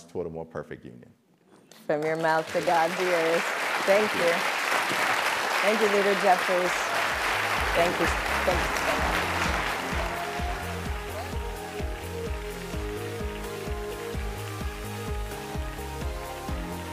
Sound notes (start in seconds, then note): 13.4 applause